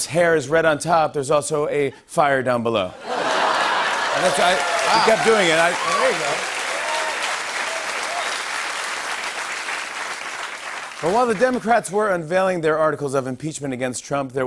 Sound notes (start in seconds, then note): 3.0 laughter; 6.4 cheers and applause